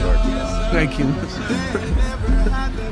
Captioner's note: laughs